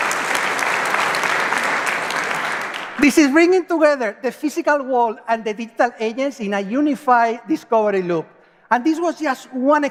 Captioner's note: applause